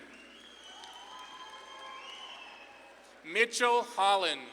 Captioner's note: audience claps and cheers